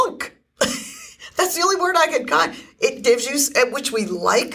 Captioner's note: laughs